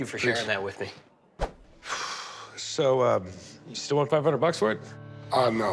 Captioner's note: exhales deeply